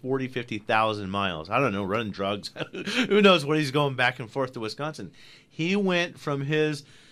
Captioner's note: laughs